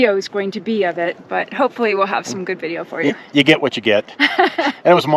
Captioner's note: laughter